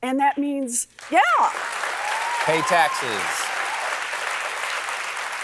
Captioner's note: applause